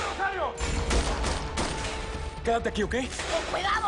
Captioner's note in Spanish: Disparos